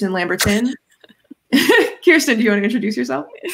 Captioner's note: both giggling